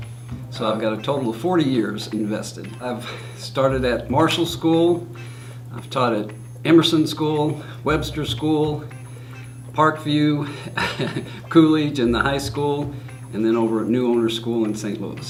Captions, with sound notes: I've got a total of 40 years invested I started at Marshall School I've taught at Emerson School, Webster School, Parkview [CHUCKLE] Coolidge and the High School And in Neuwoehner School in STL